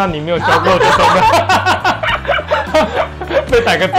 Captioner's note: Laugh